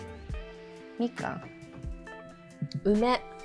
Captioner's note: Mandarin